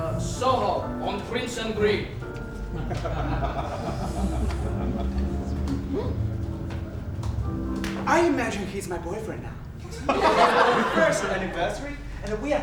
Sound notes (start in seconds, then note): 2.7 laughing; 7.7 snap; 9.9 audience laughs